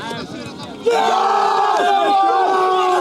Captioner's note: cheering